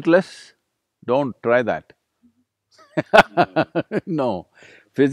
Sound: laughs

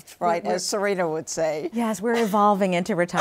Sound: laughs; chuckles

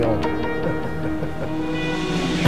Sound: laughing

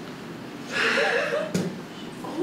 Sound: sighs

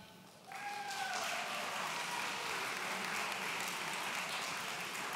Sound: audience cheering

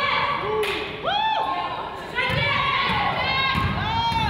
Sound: crowd cheers

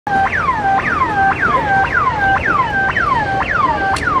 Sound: siren blares

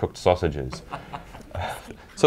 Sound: laughing

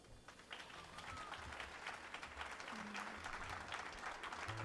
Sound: applause

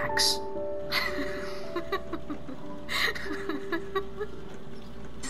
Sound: laughs

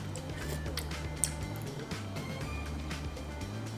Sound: upbeat instrumental music; slurping

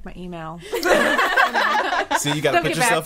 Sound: all laughing

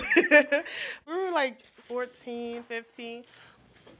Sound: chuckles; laughs

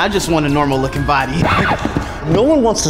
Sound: disc scratches

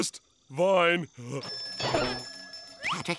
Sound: ringing

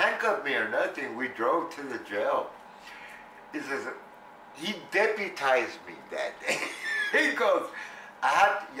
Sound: laughs

